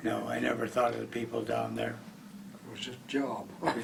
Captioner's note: voiceover